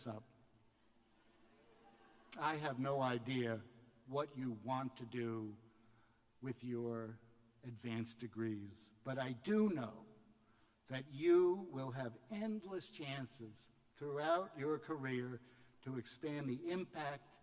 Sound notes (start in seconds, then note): 1.4 laughter